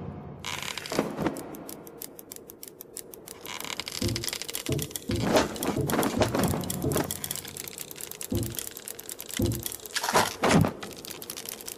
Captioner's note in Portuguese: som de agulhas tricotando